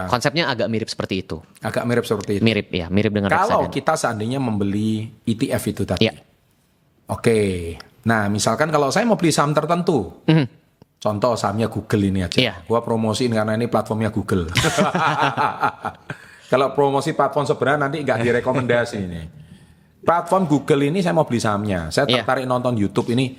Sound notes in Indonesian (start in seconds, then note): 14.6 tertawa